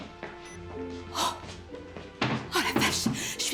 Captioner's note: beep!; sighs